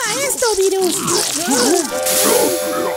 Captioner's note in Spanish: Sonido liquido